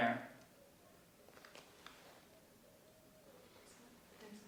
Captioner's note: animal hooting faintly